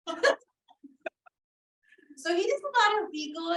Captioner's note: laughter